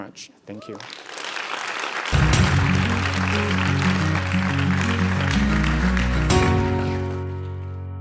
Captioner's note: applause